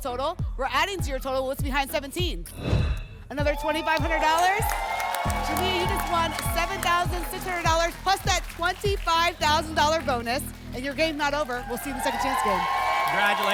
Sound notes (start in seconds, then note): 2.5 whoosh